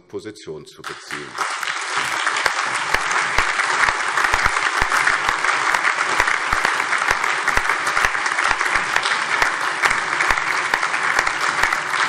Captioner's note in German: Lebhafter allgemeiner Beifall